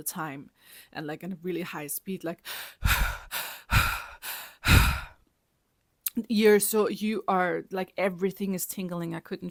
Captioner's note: demonstrating heavy breathing